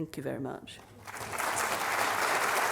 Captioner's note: applause